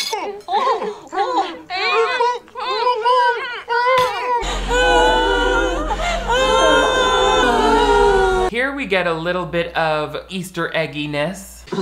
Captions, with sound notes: (the trio whines) (women cry) - Here we get a little bit of Easter egginess.